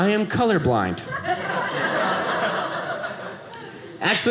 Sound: audience laughing

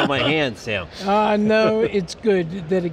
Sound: all laugh

